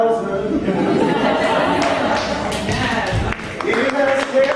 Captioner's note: audience laughing